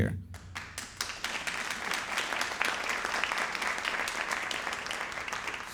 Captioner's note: audience applauding